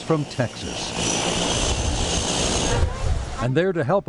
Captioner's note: plane engine roaring